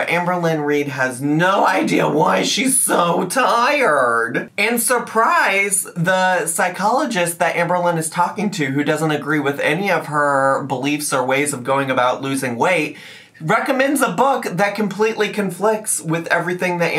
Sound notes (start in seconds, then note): none